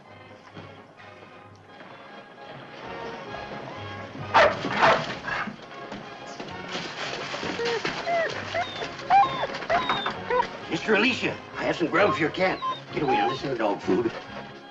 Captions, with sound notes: [ DOGS BARKING ] [ DOGS WHINING ] Sister Alicia, I have some grub for your cat. Get away, this is not for you.